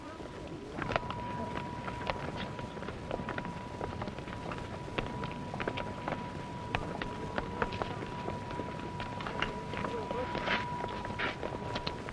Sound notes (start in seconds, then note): 0.0 footsteps and background conversations